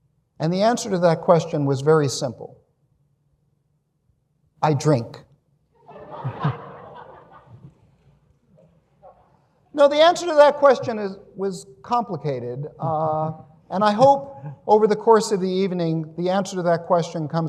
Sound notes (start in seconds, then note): 5.8 laughter